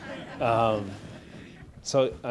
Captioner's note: audience laughs